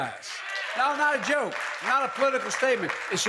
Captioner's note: applause